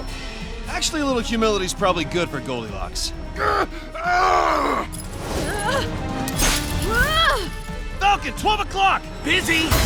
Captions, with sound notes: Actually a little humility is probably good for Goldilocks. [GROANING] [WINCING] Falcon, 12:00! Busy.